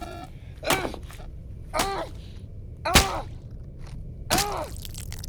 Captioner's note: squelching